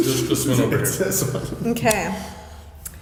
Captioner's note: laughs